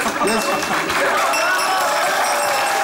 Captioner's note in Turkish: Zil sesi